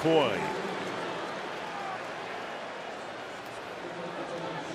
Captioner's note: pa announcement